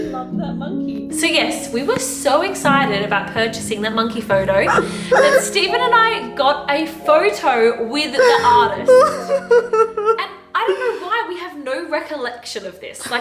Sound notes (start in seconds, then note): 0.0 laughter; 8.2 laughter